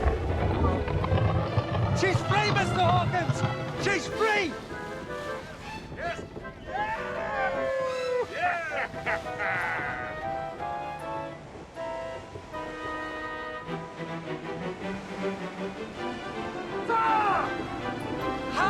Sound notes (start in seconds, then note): 0.2 creaking; 6.6 men cheering